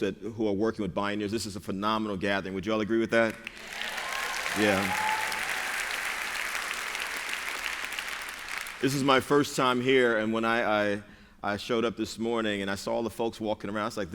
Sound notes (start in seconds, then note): 3.2 applause